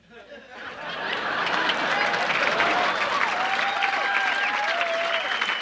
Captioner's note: audience applauding